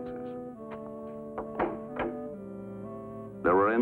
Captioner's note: door opens